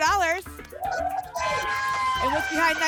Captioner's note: applause and cheering